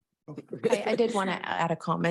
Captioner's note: mumbles